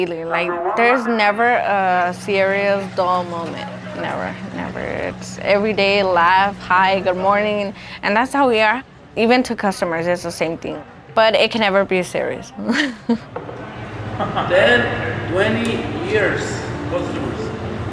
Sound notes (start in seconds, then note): 13.7 chuckles